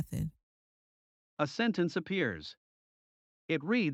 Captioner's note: voiceover